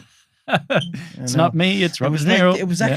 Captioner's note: laughing